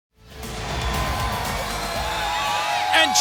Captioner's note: crowd cheering